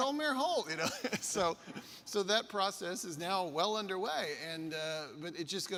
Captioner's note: laughs